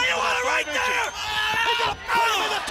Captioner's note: crowd cheering